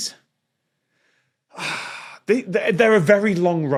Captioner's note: sighs harshly